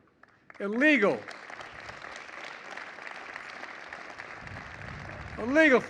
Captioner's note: applause